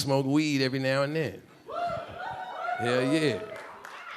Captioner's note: a few audience members cheering